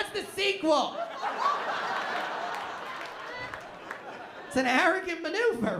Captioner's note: laughter